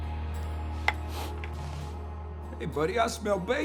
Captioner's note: sniffing